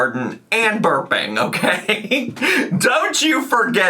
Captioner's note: laughs